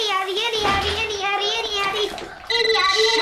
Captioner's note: telephone rings